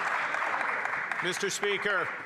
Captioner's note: some Applause